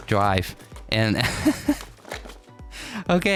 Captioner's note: lauging